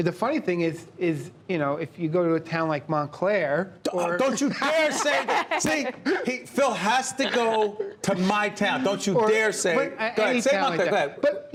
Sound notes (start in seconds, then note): 4.2 laughter